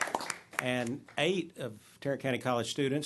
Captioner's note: applause